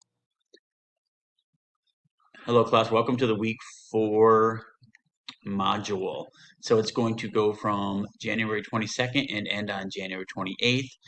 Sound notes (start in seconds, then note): 0.0 silence